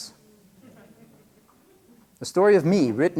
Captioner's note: laughter